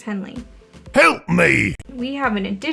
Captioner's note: an ogre's voice appears